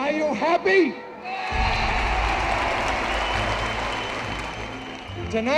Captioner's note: crowd cheers and applauds